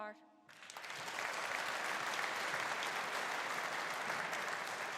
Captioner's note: audience applauding